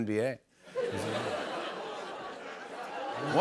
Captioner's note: laughter, scattered groans